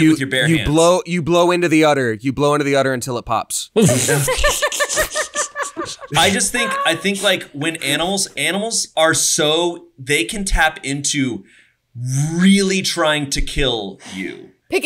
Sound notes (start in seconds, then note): 3.8 laughs